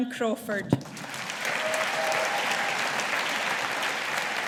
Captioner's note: audience applauding